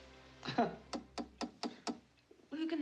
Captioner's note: KNOCKlNG